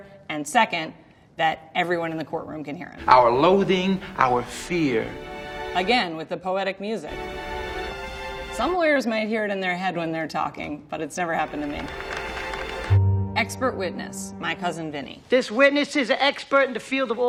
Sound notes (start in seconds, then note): 3.0 dramatic music; 7.1 dramatic music; 11.4 audience applauds